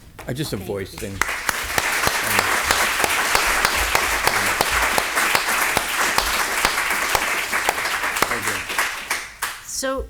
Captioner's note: applause